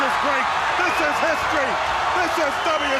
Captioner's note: crowd cheering